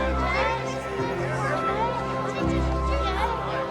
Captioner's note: chatter continuing